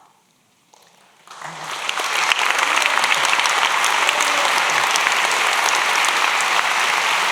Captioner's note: applause